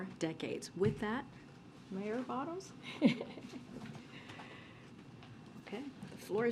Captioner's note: laughs